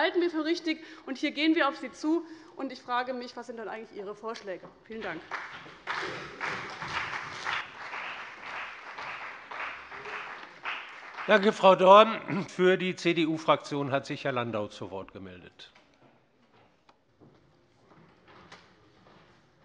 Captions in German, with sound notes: was wir für richtig halten und wo wir auf sie zugehen. Ich frage mich, was eigentlich Ihre Vorschläge sind. - Vielen Dank. [Beifall bei dem BÜNDNIS 90/DIE GRÜNEN und der CDU] Danke, Frau Dorn. - Für die CDU-Fraktion hat sich Herr Landau zu Wort gemeldet.